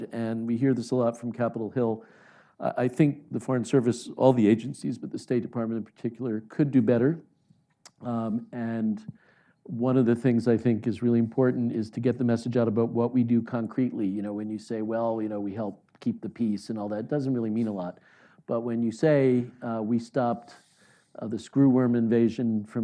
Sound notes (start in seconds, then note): none